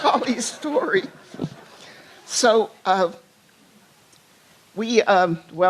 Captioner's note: laughter